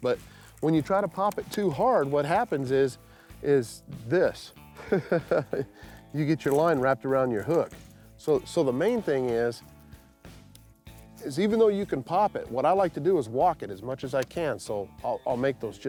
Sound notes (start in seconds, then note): 4.8 laughs